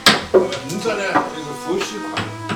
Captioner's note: wu Chinese